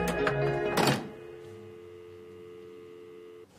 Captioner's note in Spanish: Pitido